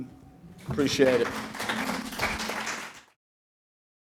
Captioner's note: audience applauding